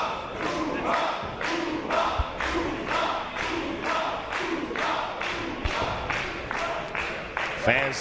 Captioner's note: applause